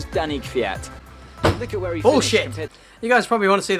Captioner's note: door slam